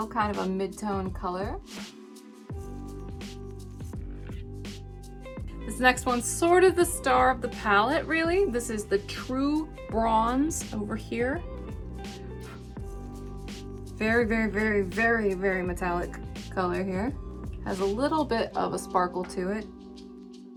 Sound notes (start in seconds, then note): 2.2 upbeat music; 12.2 blows; 20.3 upbeat music